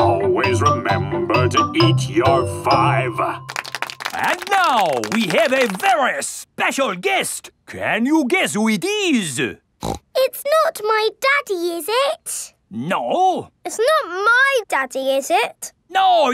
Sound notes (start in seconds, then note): 3.4 applauding; 9.8 snorts